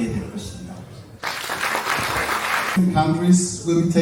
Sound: clap

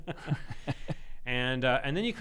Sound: laughing

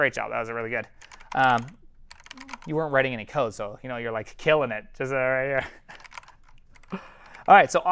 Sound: laugh

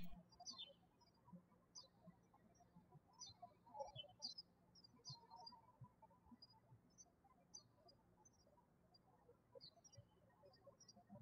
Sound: birds chirping

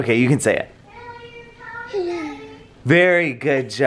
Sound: cooing

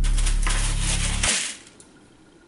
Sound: droning ends abrupt

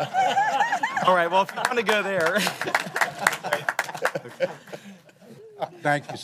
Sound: applause

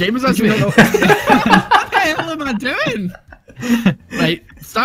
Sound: laughter

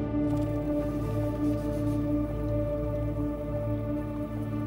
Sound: paint spraying

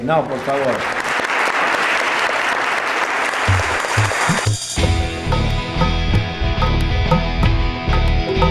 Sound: applause

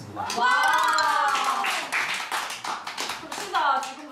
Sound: The first applause and cheers in Lovelyz Diary

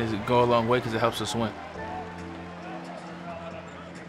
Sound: crowd cheering

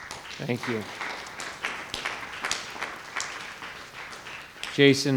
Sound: attendees applauding

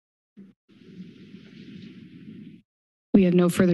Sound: static noise

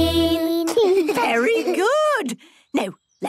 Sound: children giggling

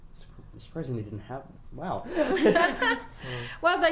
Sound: laughs loudly, laughs

